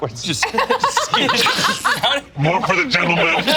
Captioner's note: laughs